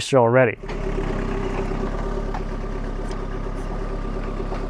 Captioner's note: engine rumbling